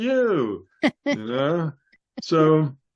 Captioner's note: laughs